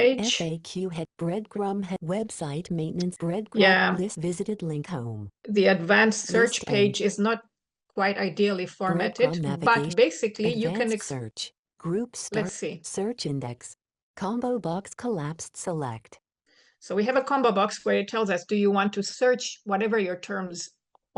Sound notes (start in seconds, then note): 11.6 screen reader chatters